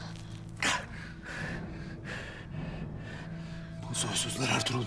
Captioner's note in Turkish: Nefes sesi